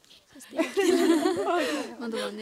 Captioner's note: laughter